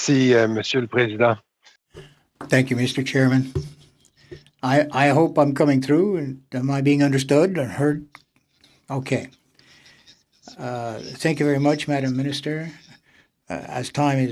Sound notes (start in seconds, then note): 8.3 speaking French